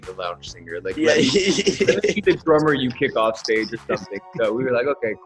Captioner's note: speaker drowned out by laughter